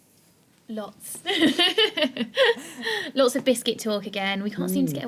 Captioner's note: laughing